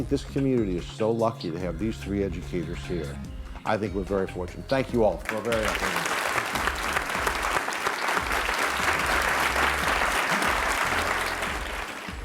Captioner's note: applause